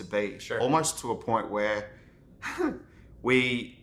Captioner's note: laughs